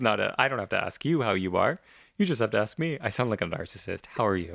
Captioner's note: laugh